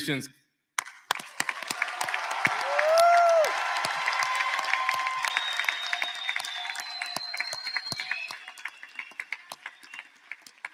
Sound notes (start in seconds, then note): 2.0 applause; 3.7 cheers and applause